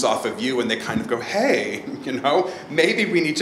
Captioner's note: laughs